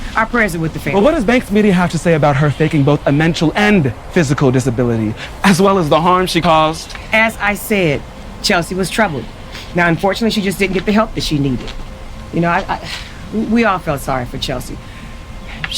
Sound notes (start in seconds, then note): 12.8 sighing